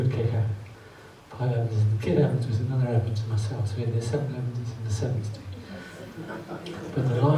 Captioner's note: audience laughs